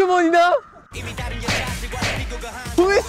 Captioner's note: Suddenly sparking off